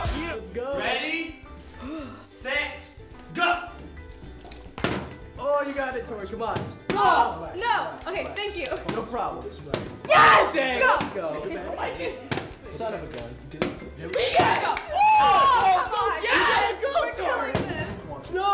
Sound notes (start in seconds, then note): 0.0 gangsta rap; 1.8 deep breath; 3.6 bottles whumping; 10.8 bottles whumping